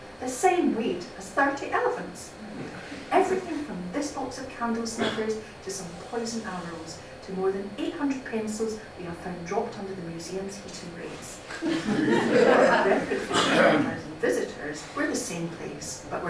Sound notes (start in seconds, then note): 11.5 laughter